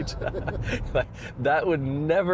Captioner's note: both chuckling